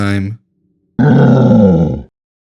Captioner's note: roar